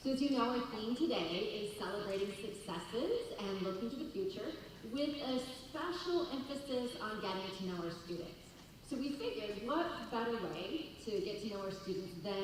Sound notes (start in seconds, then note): none